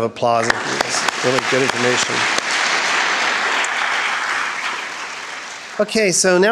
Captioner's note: all applauding